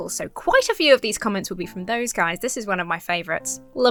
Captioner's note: none